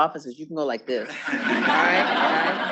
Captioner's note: students laughing